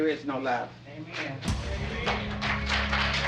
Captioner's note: applause